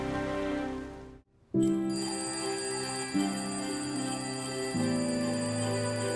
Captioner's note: alarm ringing